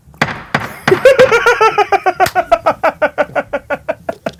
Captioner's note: laughs